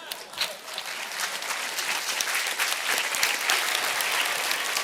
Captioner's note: applause